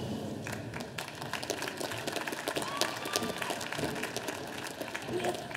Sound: audience applauding

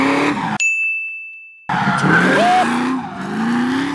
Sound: car revving; tires screeching; ding sound plays

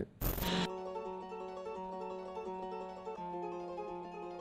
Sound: static

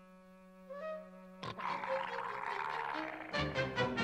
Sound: dog snarling

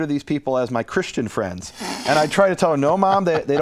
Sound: laughter

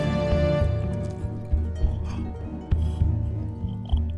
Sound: Dracula hisses and Bites Neck

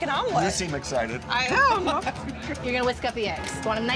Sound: chuckles

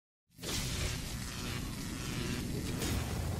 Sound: logo buzzing

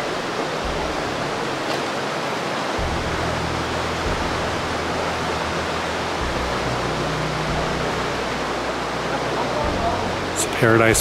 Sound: sound of rushing water and background music

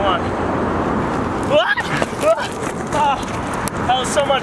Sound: squeals

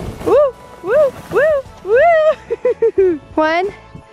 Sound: whooping

